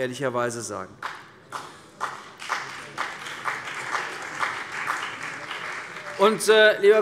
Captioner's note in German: Beifall CDU und BÜNDNIS 90/DIE GRÜNEN